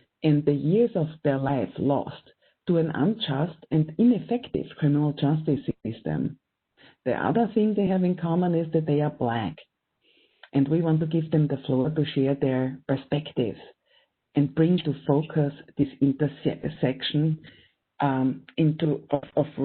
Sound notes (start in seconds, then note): none